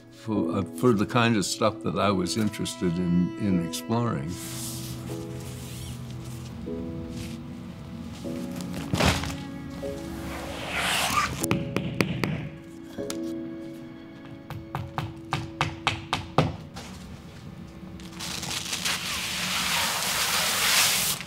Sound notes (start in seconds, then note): 4.4 sheet swooshing; 4.8 machine humming; 8.8 sheet flapping; 10.6 sheet swooshing; 12.0 hammer knocking; 18.0 film tearing